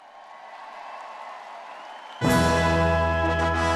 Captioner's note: all cheering; instrumental music